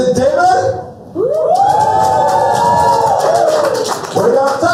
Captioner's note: cheers